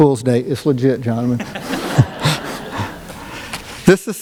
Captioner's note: laughter